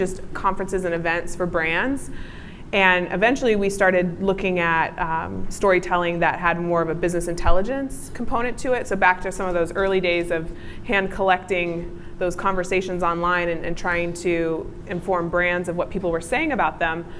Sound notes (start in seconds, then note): none